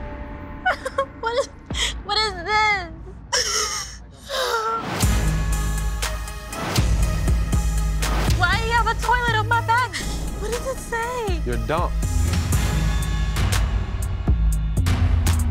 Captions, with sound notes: - What is this? (cries) Why you have a toilet on my body? What does it say? - You're dumped. (tense music)